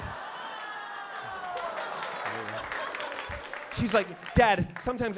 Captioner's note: laughter